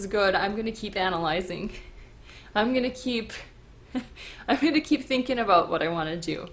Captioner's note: chuckles